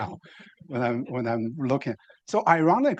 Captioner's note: laughing